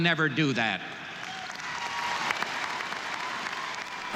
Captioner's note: audience cheering and applauding